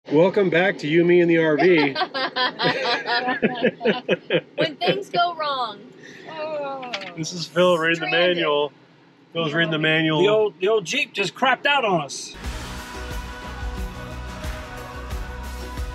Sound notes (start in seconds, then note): 1.6 laughs; 12.3 energetic music